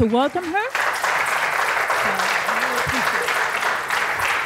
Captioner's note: applause